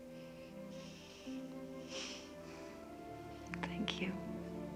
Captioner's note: both chuckle softly